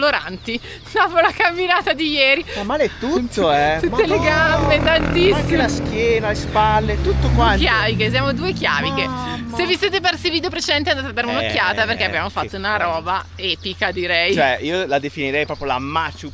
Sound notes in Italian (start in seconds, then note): 3.6 risate